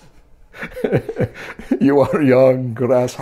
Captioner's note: laughter